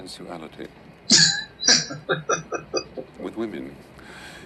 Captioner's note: laughing